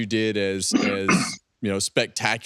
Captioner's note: clearing throat